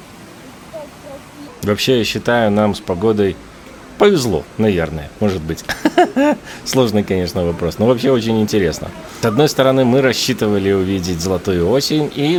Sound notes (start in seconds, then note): 5.6 laughs